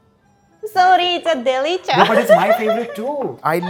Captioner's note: chuckles